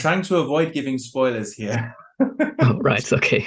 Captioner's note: laughs